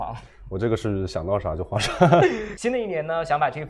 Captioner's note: laughs